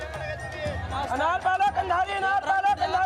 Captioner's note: foreign language spoken